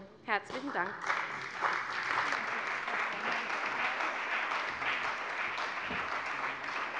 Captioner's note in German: Beifall bei der CDU und dem BÜNDNIS 90/DIE GRÜNEN